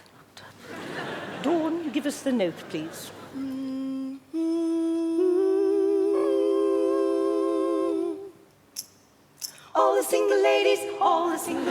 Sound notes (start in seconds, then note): 3.8 humming; 5.0 all harmonising